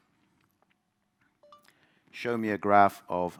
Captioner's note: phone dings